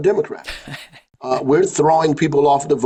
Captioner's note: laughing